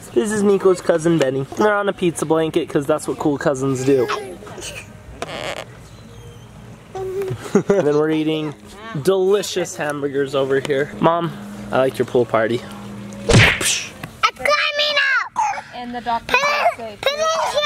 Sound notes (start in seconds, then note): 6.9 laughing; 13.3 thudding